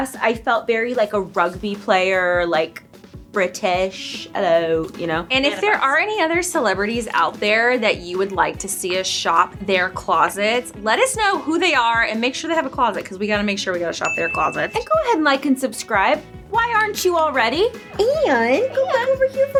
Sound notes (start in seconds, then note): 4.3 in British accent; 5.1 in normal accent; 15.0 upbeat music